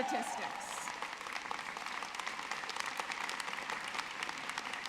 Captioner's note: audience clapping